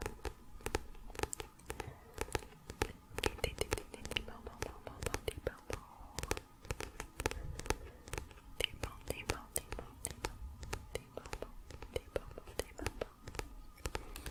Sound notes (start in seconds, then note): 6.1 tapping on book